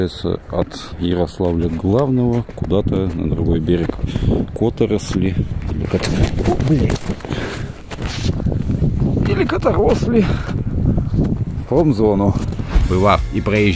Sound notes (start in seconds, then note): 10.3 another accent